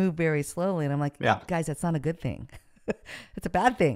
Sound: chuckles

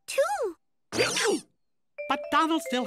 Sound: hiccups

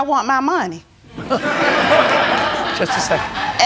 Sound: laughter

